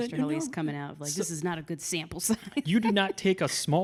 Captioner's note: chuckles